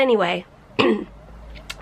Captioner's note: clearing throat